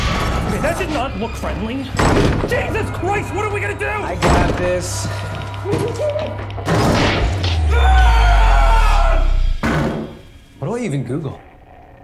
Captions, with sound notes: Ok that did not look right. [Door bangs] Jesus Christ, what are we gonna do? I got this. [Screams] What do I even Google?